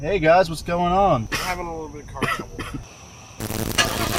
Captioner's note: coughs